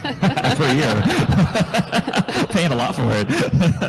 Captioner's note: chuckles